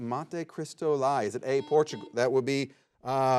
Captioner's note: buzzer beeps